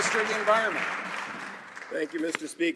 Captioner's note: some Applause